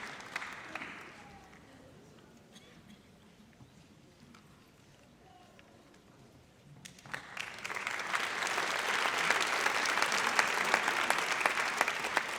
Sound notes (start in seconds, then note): 7.0 audience applauds